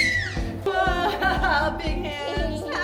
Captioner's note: screaming